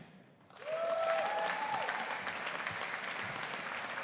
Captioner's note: audience applauding